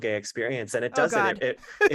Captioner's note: laughter